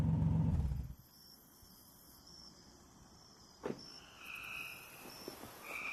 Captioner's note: crickets chirping